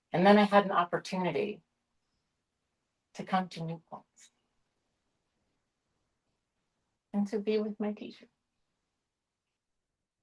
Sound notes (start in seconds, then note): none